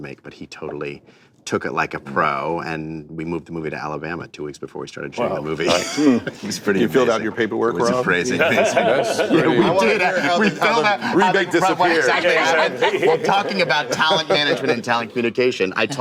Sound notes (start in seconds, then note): 8.3 laughter